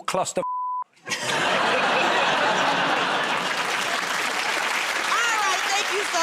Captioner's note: laughter